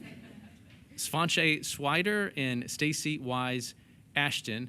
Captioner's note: chuckles